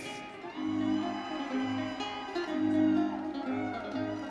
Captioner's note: audience cheering